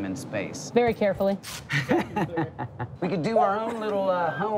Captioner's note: laughs